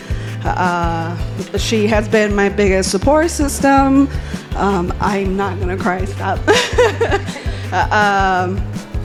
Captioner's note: laughing